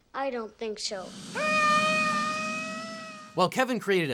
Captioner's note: yelling